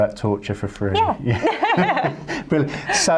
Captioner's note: laughs